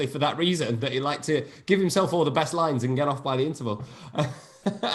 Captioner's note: laughs